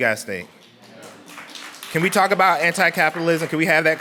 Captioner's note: clapping